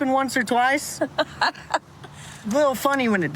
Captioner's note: laughs